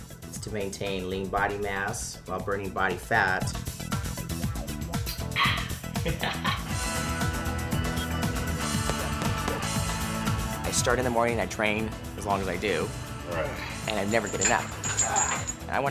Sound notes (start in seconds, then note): 5.4 laughs